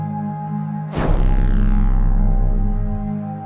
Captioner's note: puff